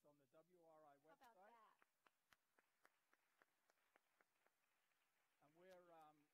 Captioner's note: applause